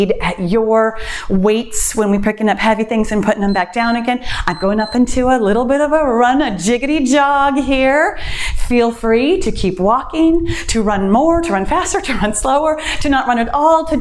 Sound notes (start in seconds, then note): 3.4 timer beeps